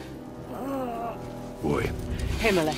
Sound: Atreus groans

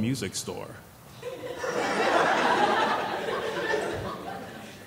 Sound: laughing

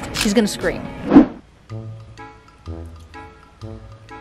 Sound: whooshing

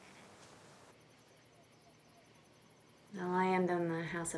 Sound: insects chirping

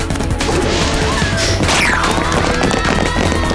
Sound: gasping; screaming

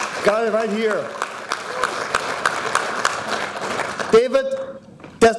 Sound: audience applauding

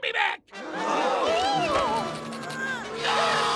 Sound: gasping

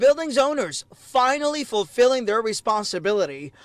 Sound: speaking spanish

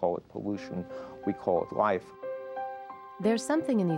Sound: none

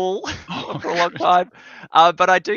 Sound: both laughing

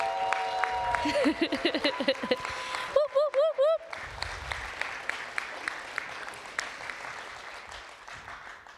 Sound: applause

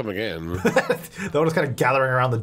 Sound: laughing

